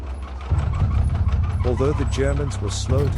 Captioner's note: suspenseful music continues; tank tracks squeaking